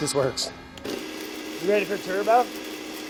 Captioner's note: blender whirring